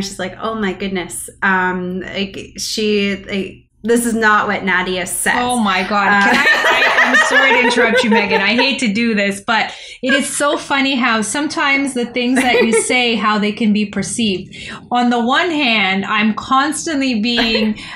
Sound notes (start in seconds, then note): 6.2 laughter